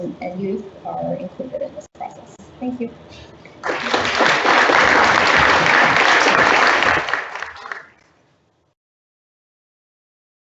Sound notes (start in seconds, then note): 3.6 audience applauds